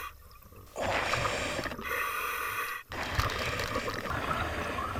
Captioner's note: breathing in oxygen tank